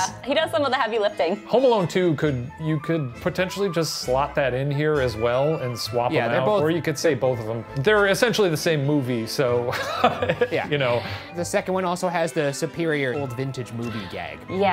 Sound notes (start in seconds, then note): 9.7 laughing